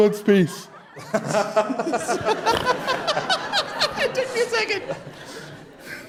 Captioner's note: audience Laughter